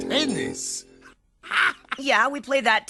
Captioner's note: chuckles